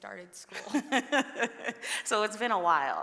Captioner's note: laughs